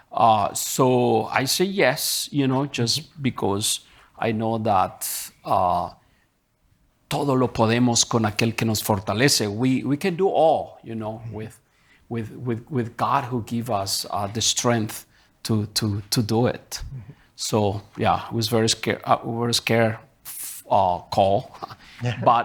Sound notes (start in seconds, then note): 6.9 speaking in Spanish